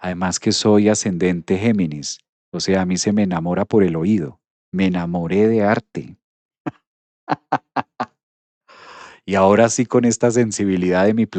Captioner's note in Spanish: risas